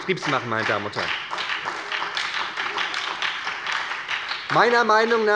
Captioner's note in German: Beifall bei der SPD